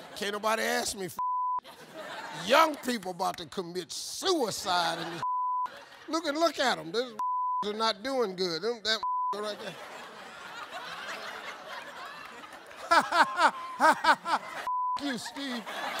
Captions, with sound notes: Can't nobody ask me for (beep). Young people 'bout to commit suicide in this (beep). Look at 'em. These (beep) are not doing good. That (beep) right there. (audience laughing) "(laughs) (beep) you, Steve."